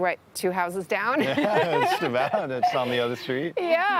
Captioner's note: laughs